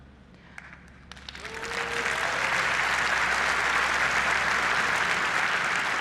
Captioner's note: applause